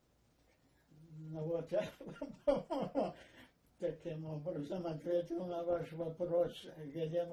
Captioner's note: laughing